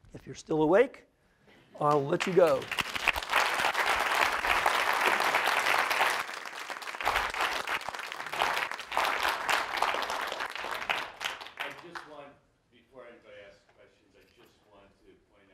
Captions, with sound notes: If you're still awake, I'll let you go. [ Applause ] >> I just wanted -- before everybody asked question, I just wanted to point